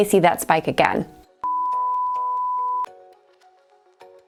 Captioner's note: beeping